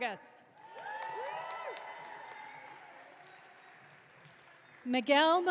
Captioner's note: audience cheering